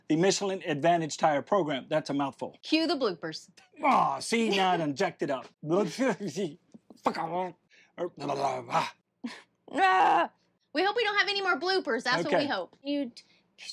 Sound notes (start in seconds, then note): 3.7 groans; 6.0 speaks gibberish; 9.7 groans